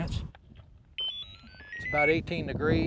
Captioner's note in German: Kragen Signaltöne